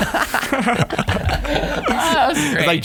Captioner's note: all laughing